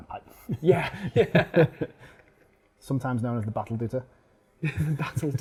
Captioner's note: laughing; laughing